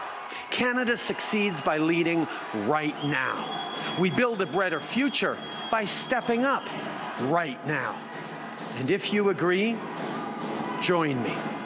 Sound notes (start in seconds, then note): 2.8 chanting